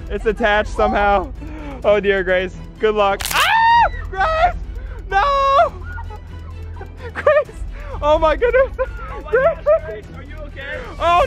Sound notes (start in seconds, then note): 3.2 crunching; 3.2 screaming; 5.2 laughing